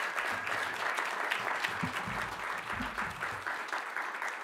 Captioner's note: applause